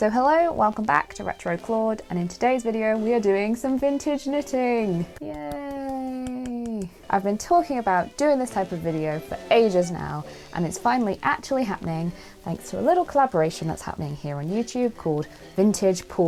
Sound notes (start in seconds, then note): 5.0 quiet clapping